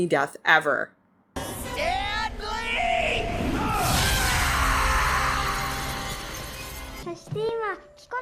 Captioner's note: death scream as he gets Falcon Punched